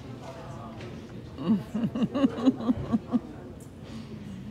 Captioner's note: laughing